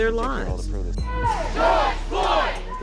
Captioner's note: crowd